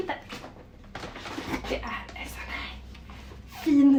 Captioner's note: whispering